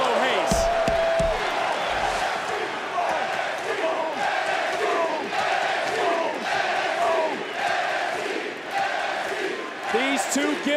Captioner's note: applause